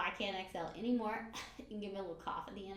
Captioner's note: coughs